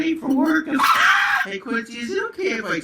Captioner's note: dog barking